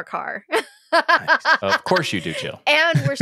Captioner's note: laughing